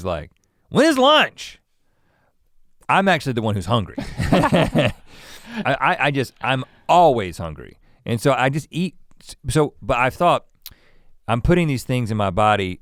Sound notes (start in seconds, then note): 4.0 both laugh